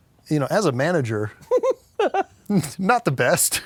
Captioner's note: giggles